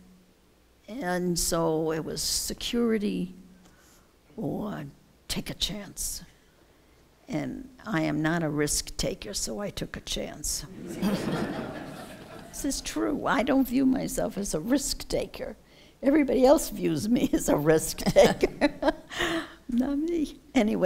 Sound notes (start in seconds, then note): 10.7 laughter; 18.2 laughs